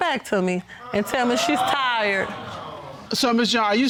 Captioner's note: audience exclaims